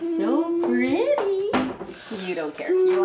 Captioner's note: moaning